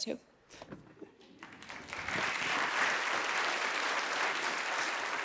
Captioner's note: audience applauding